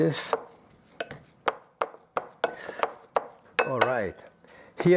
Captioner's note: bowl thumping